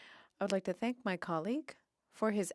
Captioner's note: speaking French